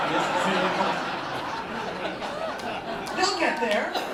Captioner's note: laughter